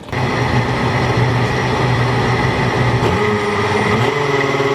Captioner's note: blender whirring